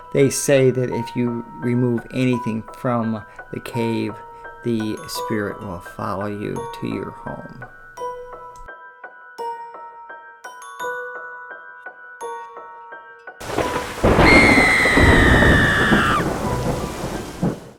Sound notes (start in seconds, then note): 13.5 rain splattering and woman shrieking